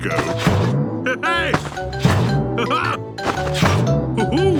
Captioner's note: laughs